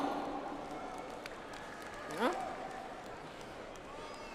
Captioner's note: audience applauds